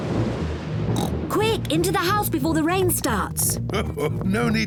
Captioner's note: thunder rumbles; oinks; chuckles